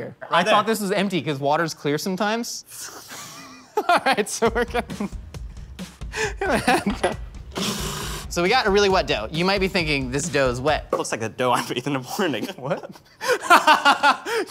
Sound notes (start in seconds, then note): 2.7 laughing; 7.6 blender whirring; 13.5 laughing